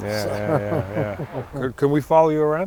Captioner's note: laughs